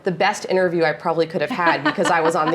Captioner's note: laughing